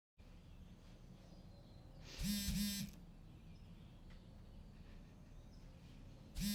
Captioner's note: phone Vibrating